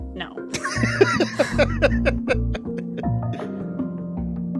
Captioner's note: laughs